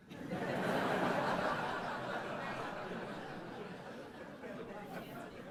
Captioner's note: audience laughs